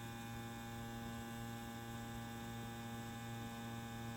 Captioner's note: machine buzzes softly